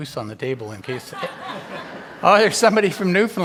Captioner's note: all laugh